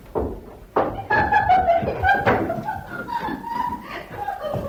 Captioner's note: maids laugh